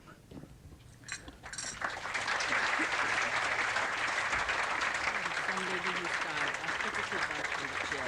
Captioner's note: claps